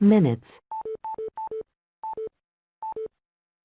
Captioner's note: beeping